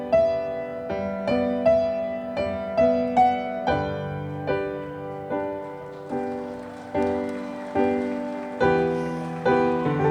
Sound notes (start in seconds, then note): 5.2 audience applauding